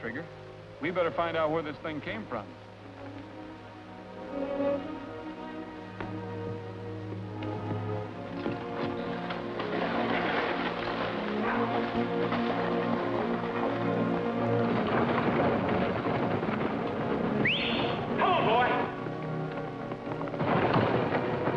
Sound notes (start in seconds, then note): 17.3 whistles